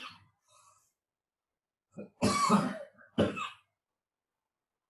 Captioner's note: student coughs